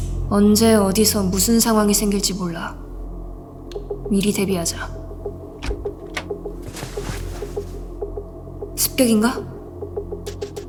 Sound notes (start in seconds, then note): 0.0 tense music; 5.5 door opening sound